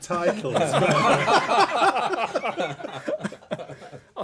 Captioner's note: laughter